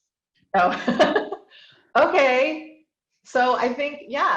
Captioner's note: laughs